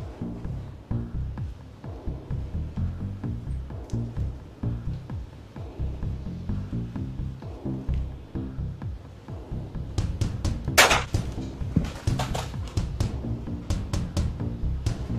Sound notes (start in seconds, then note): 10.8 gun firing